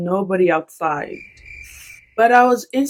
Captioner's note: bruits de grillons